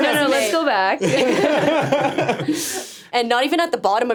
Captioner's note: all laughing